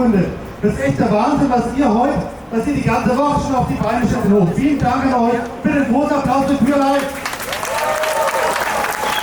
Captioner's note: applause